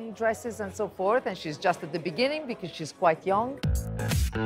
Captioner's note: in English